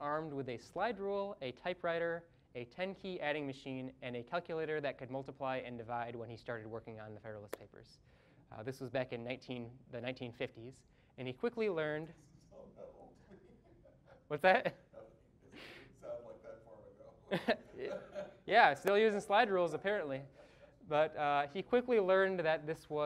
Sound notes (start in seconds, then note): 12.5 laughing; 15.3 all laughing